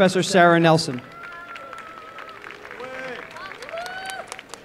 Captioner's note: applause and cheering